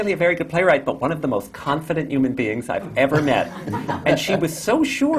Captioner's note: laughter